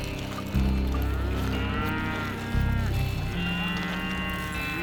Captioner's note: cows mooing